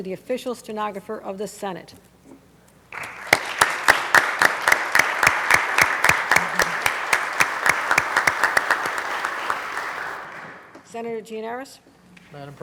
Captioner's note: applause